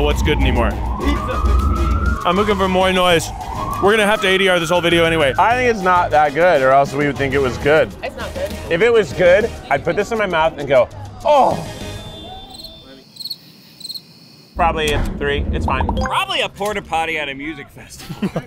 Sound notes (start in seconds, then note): 11.9 cricket chirping